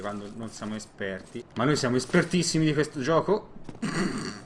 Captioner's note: snorts